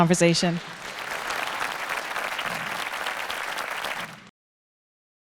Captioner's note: audience applauding